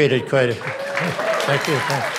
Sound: audience clapping

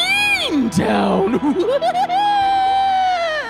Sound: in a weird voice; laughing like a witch

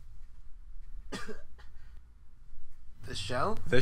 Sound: cough

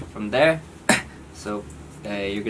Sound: real cough

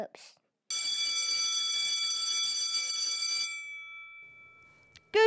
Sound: school bell rings

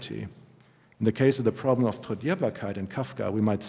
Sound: german

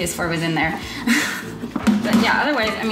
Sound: giggles

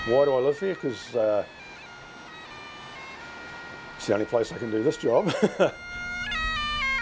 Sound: laughing

